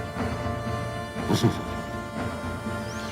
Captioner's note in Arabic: يضحك قليلاً